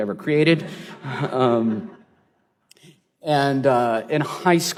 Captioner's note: laughter